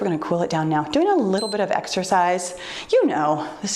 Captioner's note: timer beeps